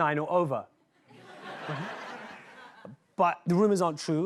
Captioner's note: laughter